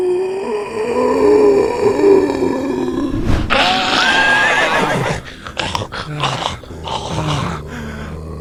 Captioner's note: painfully screaming